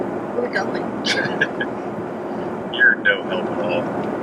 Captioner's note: laughing